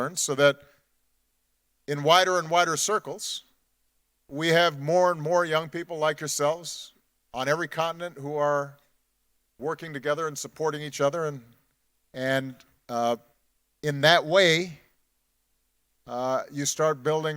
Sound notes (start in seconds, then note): none